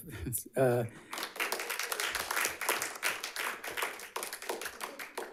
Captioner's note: audience applauds